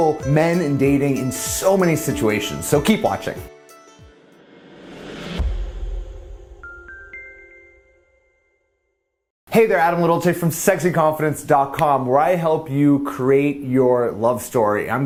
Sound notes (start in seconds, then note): 4.9 exploding softly; 6.7 mild chiming